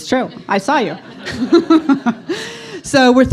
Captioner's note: audience laughs